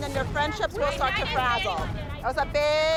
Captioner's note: chatter